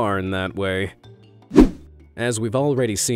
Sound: image whooshing

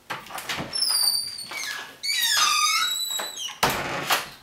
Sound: door opens and closes

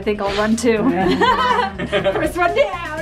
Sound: laughter

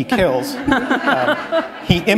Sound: laughter

